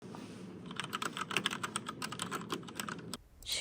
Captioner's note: keyboard typing sounds